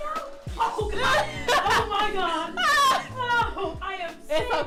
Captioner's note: laughter; laughter